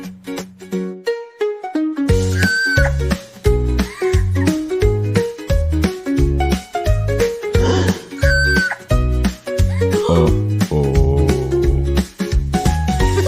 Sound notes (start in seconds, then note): 2.4 Aunt Annie screams; 8.2 Aunt Annie screams